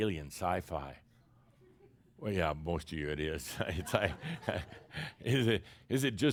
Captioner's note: chuckles